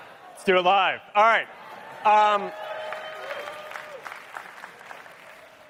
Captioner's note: cheering